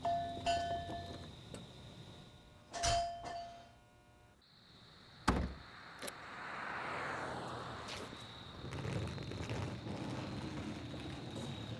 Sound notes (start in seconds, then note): 0.0 door bell; 5.1 trunk shuts; 8.5 luggage rolling